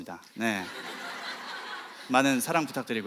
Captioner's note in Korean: 웃음